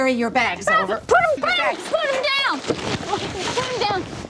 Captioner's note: yelling